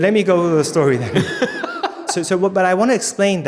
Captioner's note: laughing